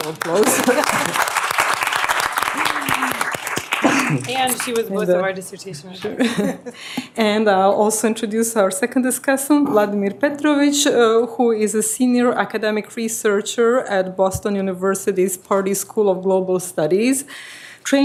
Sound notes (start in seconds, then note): 2.3 applause